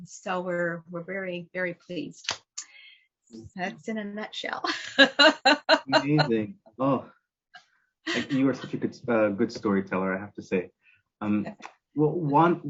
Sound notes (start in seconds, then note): 4.7 laughter